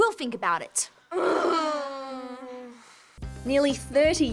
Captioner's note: all groan